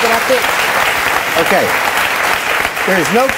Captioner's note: audience clapping